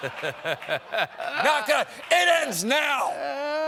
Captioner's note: laughter